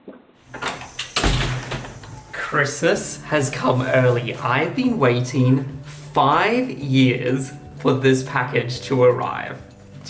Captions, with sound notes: (door closing) - Christmas has come early. I've been waiting five years for this package to arrive.